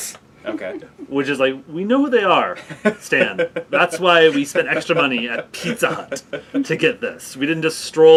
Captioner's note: laugh